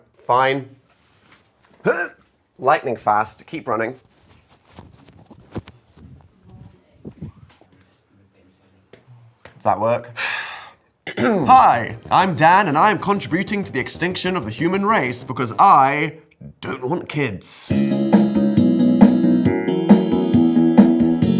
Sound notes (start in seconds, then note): 1.8 grunts; 10.2 sighs; 17.7 upbeat ambient music